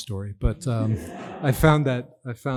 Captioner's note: audience laughs